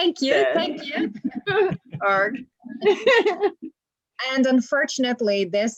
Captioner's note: laughter